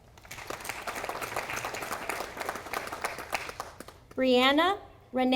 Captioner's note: audience applauding